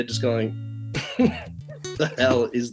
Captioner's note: chuckles